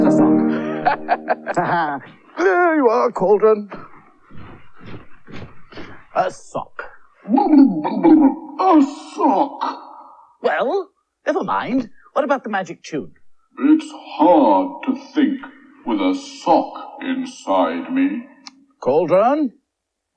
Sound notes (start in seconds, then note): 0.0 stops Playing Piano; 0.4 Toby Laughs